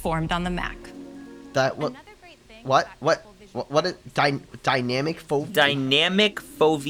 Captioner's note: stutters in big words